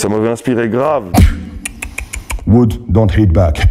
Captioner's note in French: beatbox